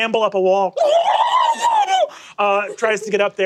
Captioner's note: mimics guinea gobble